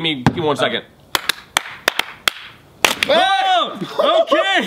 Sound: clapping

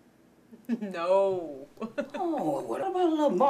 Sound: chuckling

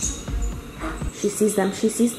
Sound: gasps

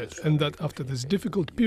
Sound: speaking Foreign Language

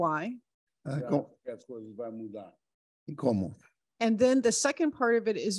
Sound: speaking Portuguese

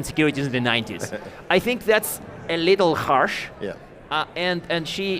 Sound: chuckling

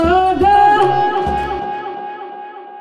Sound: echoes

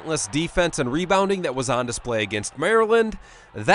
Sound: crowd

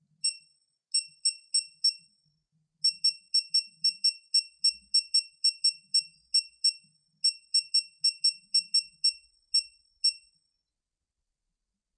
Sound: beep noise from torque wrench setting; silence

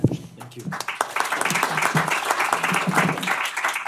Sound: applause

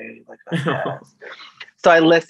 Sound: laughs

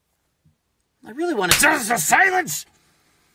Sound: slap

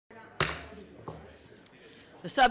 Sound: gavel bangs

